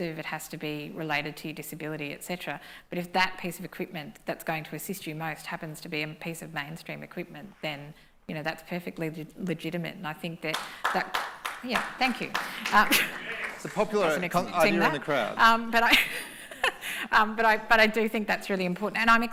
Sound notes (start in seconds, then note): 10.5 applause